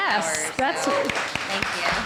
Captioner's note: applause